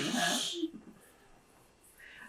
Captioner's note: laughs